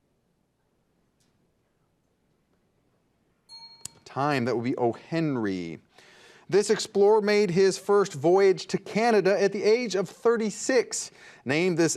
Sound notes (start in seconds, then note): 3.5 bell dings